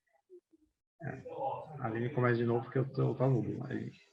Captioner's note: non-english speech